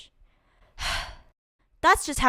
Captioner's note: sigh